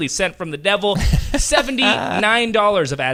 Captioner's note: laughing